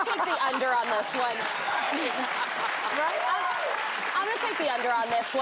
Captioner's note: laughter